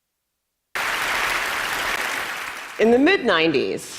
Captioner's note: audience applauding